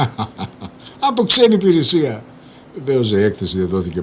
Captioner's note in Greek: γέλια